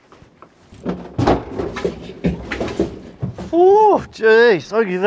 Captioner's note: flushing toilet